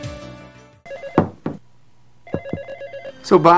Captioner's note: serene music; phone rings